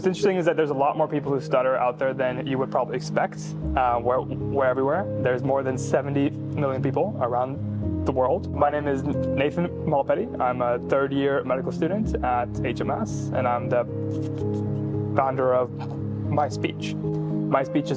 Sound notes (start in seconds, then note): none